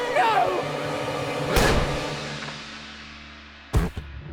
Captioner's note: loud gunshot